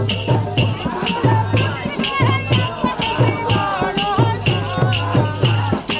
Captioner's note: chanting